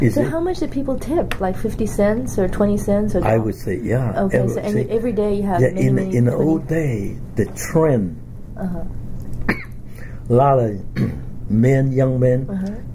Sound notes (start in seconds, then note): 9.4 coughs